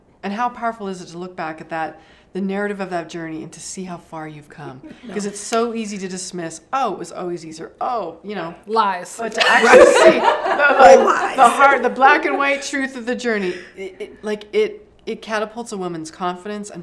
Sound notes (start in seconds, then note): 9.4 laughs